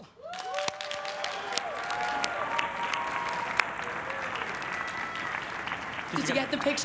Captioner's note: everyone cheering and applauding